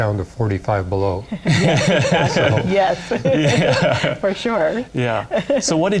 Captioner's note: laughter